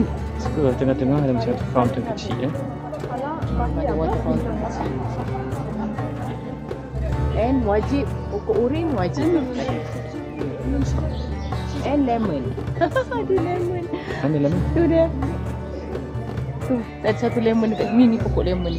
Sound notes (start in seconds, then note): 12.5 laugh